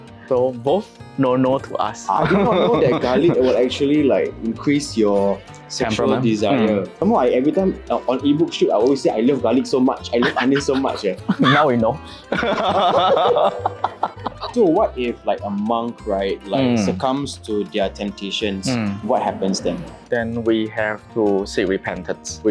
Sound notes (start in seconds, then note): 12.3 laughs